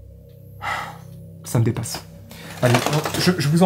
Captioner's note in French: soupire